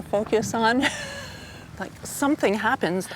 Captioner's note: laughs